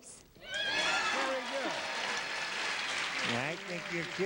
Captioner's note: audience cheers